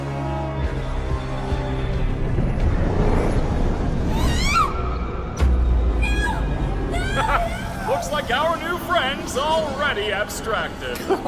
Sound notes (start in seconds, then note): 4.3 shrieks; 6.8 laughs